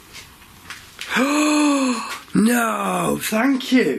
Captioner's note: sharp gasp